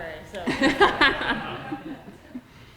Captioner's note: laughter